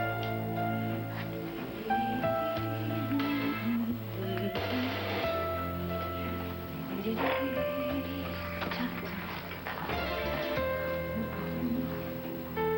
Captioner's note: mrs. cinqmani hums